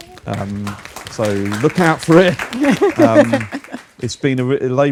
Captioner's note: audience applause